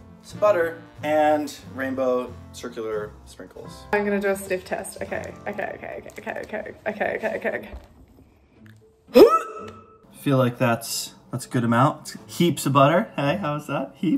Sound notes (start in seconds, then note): 9.1 hiccups